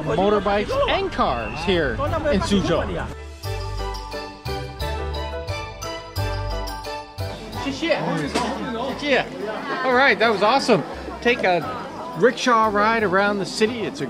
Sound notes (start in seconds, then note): 7.7 speaks in foreign language